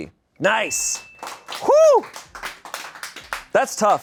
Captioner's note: bell dings; audience applauding